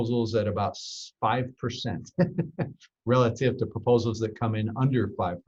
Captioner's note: laughs